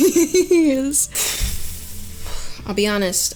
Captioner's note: blowing out air